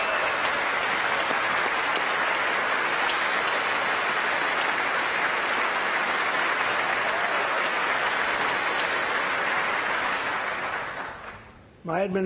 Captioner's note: applause